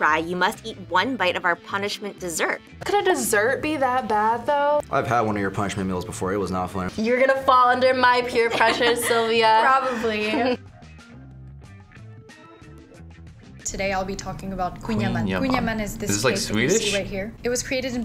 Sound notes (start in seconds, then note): 8.3 laughs